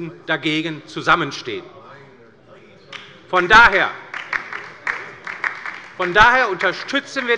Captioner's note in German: Beifall bei der : Meine Güte!